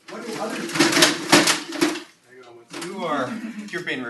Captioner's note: crash